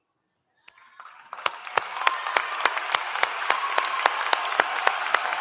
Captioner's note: applause